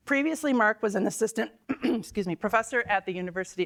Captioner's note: clears throat